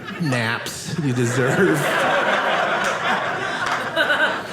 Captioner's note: audience laughing